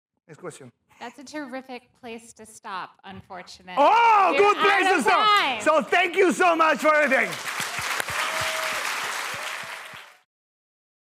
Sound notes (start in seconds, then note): 8.5 applause